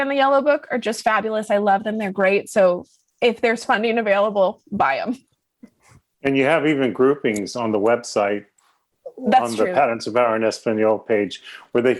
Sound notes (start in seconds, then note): 5.6 laughs